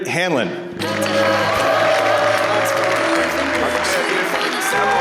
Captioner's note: applause